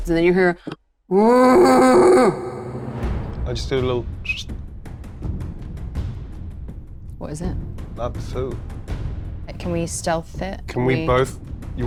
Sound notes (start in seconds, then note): 1.1 groaning; 4.2 whistles